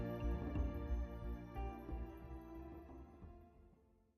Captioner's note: applause